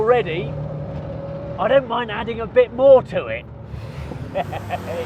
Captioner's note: laughs